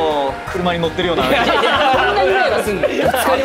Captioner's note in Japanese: 笑い